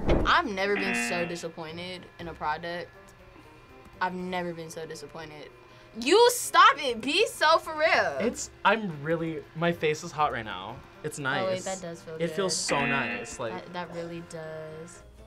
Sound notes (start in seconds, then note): 12.6 buzzer rings